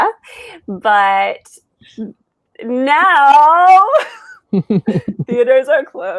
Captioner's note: laughs